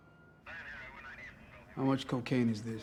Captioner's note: police radio chatter